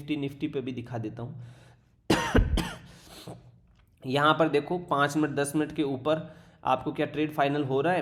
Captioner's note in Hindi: खांसने की आवाज़